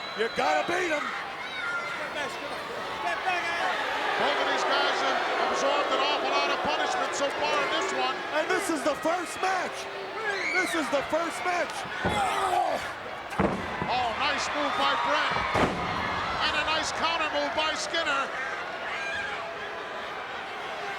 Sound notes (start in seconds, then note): 15.2 Hit Man thuds; 18.3 crowd yelling